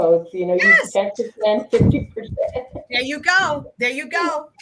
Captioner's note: laughs